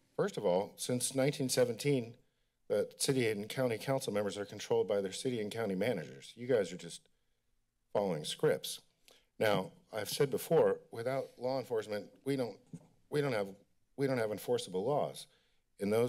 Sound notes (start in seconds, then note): none